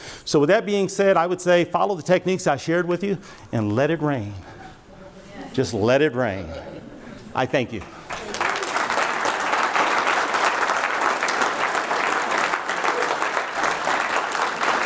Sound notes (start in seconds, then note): 7.7 audience clapping